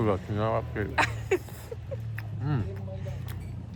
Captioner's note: hahahaha